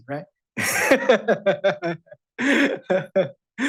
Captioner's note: chuckles